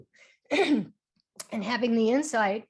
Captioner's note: clearing throat